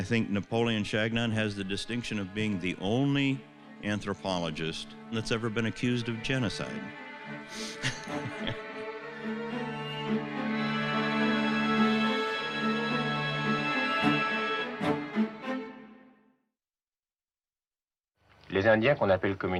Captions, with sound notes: and I think Napoleon Chagnon has the distinction of being the only anthropologist that's ever been accused of genocide. (laughing)